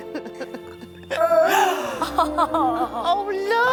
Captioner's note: baby gurgles